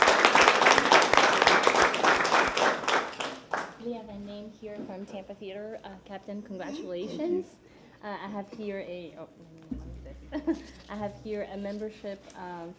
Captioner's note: applause